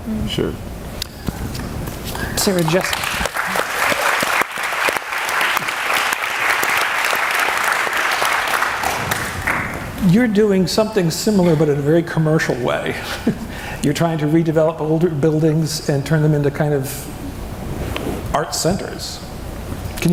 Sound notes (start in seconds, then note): 2.1 audience clapping; 13.0 chuckles